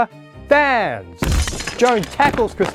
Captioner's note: glass smashing